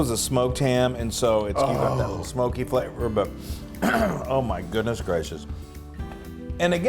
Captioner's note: cough